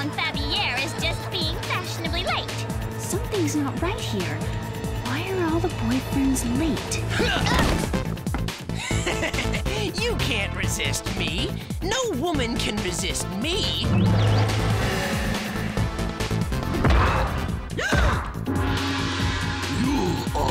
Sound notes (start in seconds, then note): 17.6 heavy steps; 18.6 gasps